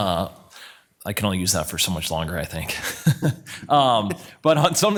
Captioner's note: laughs